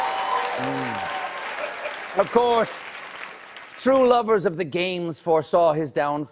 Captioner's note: applause